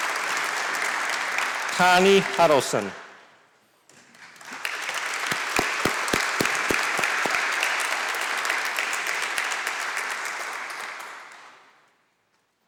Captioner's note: applause; applause